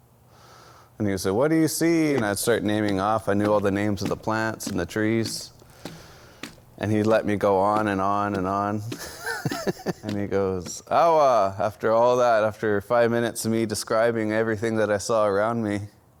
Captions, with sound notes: and he would say, "What do you see?" And I'd start naming off, I knew all the names of the plants and the trees. And he'd let me go on, and on, and on (laughs). And he goes, (speaks foreign language). After all that, after five minutes of me describing everything that I saw around me,